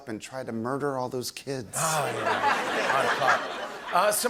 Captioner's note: laughter